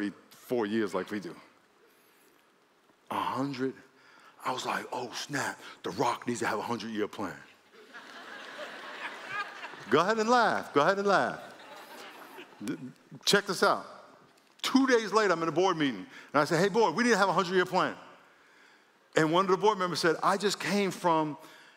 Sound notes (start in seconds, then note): 7.7 laughter